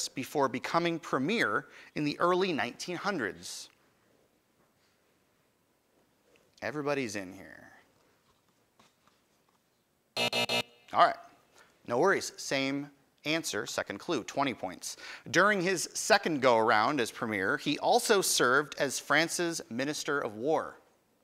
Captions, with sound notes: before becoming Premier in the early 1900s. Everybody's in here. (time buzzer) Alright, no worries, same answer, second clue, 20 points. During his second go around as Premier, he also served as France's Minister of War.